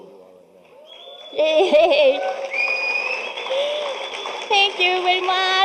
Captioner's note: audience cheering